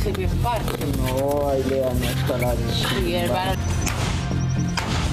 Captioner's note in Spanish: disparo